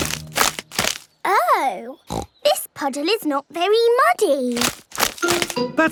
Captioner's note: snorting